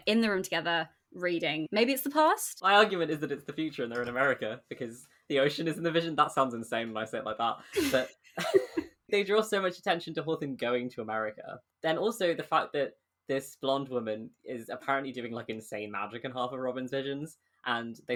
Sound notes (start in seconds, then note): 8.4 both laugh